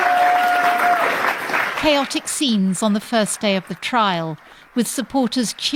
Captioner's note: cheering